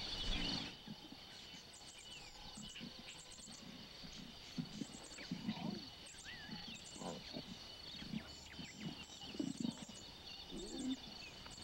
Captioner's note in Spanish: sonidos selváticos